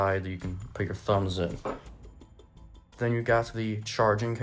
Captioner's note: charging adapter makes moderate thud as it gets set on table